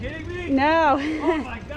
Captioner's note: laughs